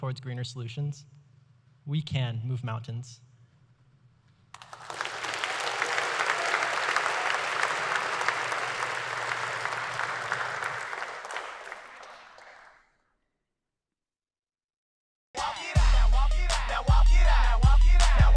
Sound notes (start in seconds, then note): 10.6 applause